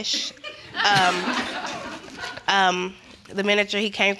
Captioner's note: audience laughing